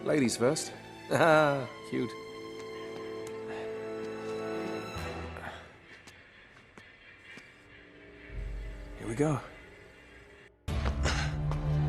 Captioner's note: laughs